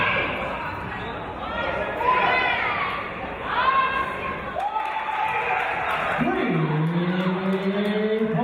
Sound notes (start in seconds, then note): 4.4 cheers and applause